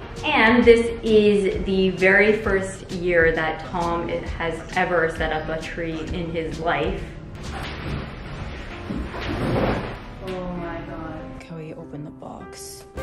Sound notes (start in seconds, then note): 7.4 rustling